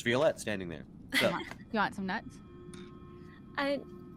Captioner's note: Violette chuckles